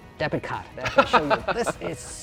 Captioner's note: laughs